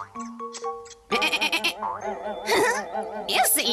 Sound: izzy bleats; peep giggles

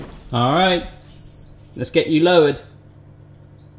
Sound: beeping; beeping

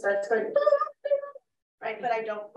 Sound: imitates alarm sound

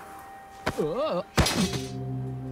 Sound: grunts awkwardly

